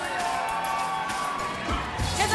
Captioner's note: cheers and applause